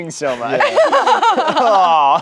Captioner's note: laughs